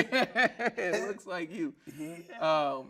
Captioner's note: laughing